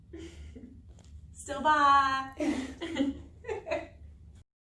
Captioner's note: laughs